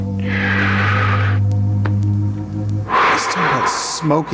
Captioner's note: inhaling; exhaling